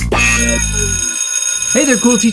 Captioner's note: funky music; school bell rings